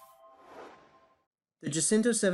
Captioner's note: whooshing